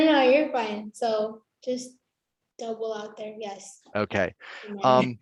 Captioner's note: laughing